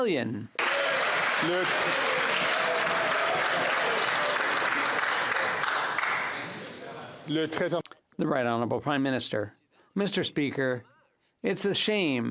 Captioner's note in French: applaudissements